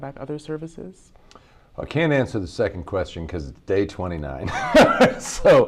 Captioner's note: laughs